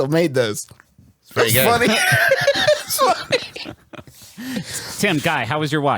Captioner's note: laughs